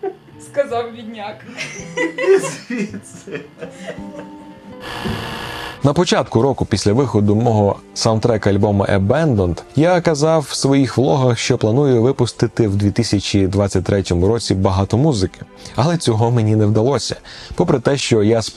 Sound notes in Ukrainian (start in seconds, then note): 3.6 сміються